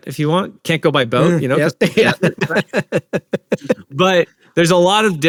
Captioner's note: laughter